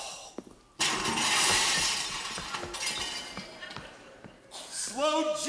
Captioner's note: glass shattering